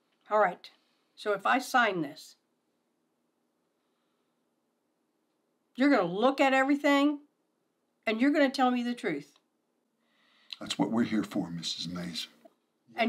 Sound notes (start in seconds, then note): none